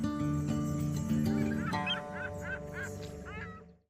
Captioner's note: seagulls chirping